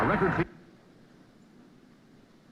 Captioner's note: recording stops